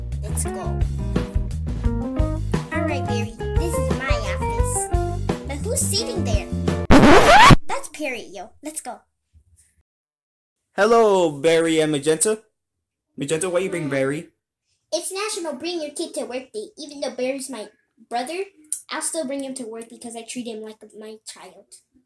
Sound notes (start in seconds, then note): 6.9 record Scratch